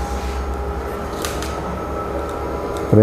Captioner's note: printer machine noise; tripod noise; printer machine noise